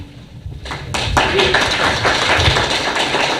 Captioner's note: applause